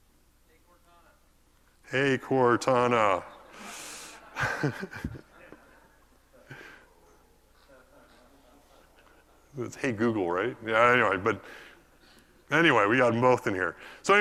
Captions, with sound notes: we'll call this HeyCortana [LAUGH]. With Hey Google, right? Yeah, I know, but anyway, we've got them both in here.